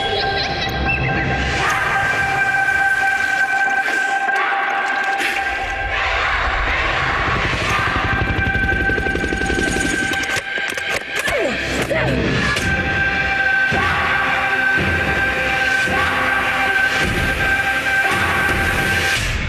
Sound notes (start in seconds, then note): 0.1 giggles echoing; 1.4 screams echoing; 5.6 shouting; 6.5 helicopter whirring; 11.0 grunting